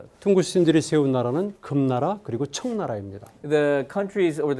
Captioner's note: speaking in Korean